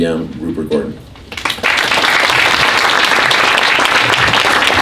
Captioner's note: applause